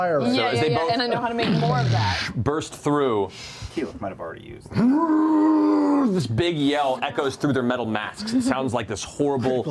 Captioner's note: roaring